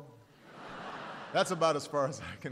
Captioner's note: laughter